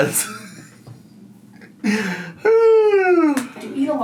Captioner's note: laughs